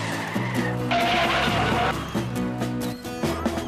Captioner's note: tires Squealing